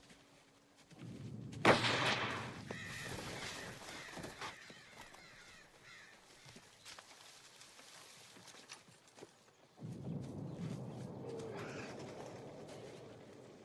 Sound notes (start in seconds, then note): 1.6 gunshot; 2.6 birds shriek; 11.2 bird cries